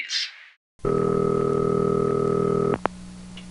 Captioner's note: dial tone